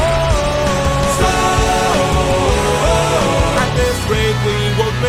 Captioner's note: storm